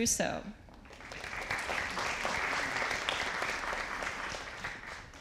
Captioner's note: audience applauding